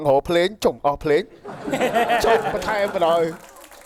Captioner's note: laughing